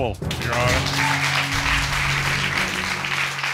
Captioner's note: audience applauding